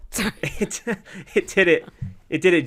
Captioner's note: laughter